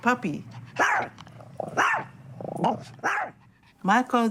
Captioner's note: dog barking